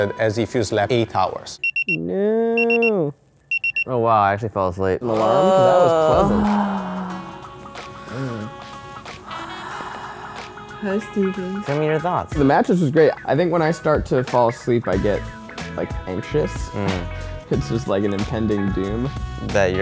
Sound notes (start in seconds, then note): 3.5 alarm rings; 5.0 groans; 7.9 sighs